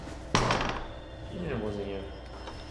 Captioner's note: doorknob rattles